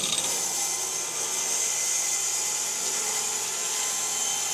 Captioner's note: saw buzzing